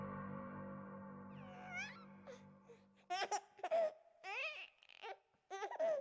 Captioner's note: baby laughing